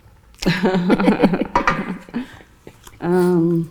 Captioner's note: laughs